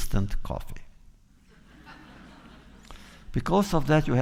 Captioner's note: laughter